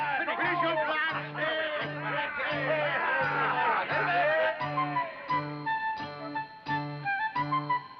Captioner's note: men cheer